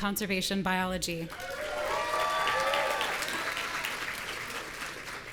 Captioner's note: audience cheering